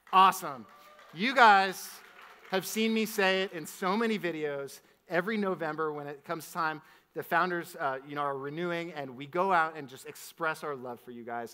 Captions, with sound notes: Awesome. (audience applauds) You guys have seen me say it in so many videos, every November when it comes time, the founders are renewing, and we go out and just express our love for you guys,